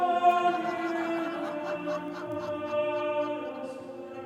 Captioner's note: laughter